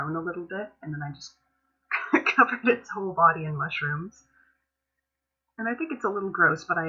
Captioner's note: laughs